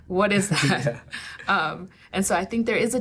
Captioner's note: laughing